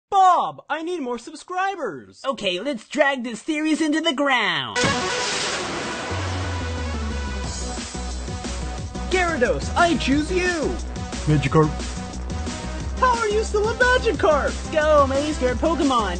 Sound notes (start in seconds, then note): 4.7 electronic music; 4.9 graphics whooshing; 7.4 upbeat music